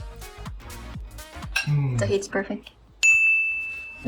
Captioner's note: spoon clanks